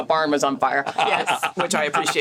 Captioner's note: laughs